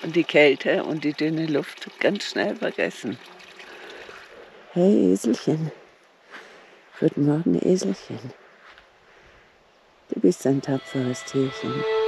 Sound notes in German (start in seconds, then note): 3.3 Plätschern